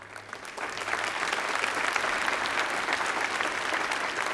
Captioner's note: applause